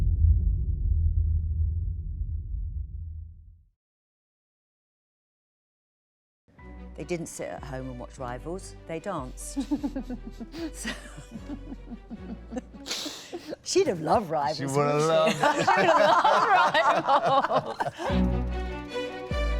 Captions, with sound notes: They didn't sit at home and watch Rivals, they danced. (laughter) She'd have loved Rivals. - She would have loved Rivals! (laughter)